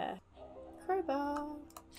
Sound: sing-song

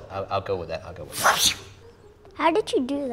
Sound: swooshes

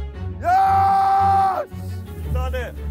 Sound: screaming

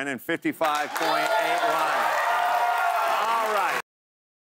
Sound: cheering and applause

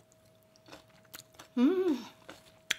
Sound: crunching

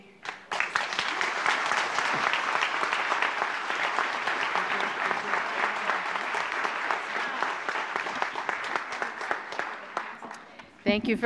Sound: applause

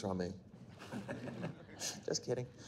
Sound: group chuckles

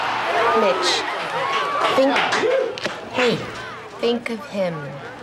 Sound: crowd Cheering

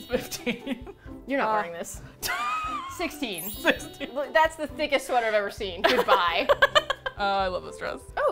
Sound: laughs; laughs

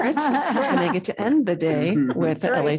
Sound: audience laughing

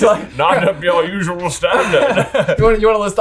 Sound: laughs

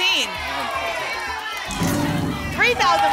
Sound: cheering

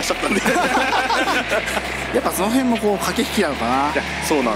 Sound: laughs

